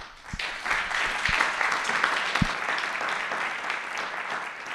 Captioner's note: applause